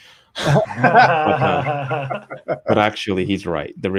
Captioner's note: both laugh